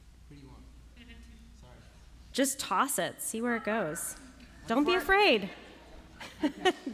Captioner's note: laughter